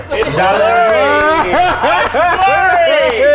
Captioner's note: all clapping and laughing